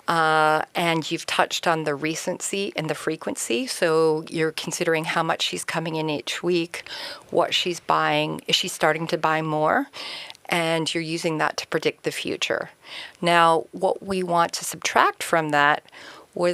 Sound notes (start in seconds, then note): none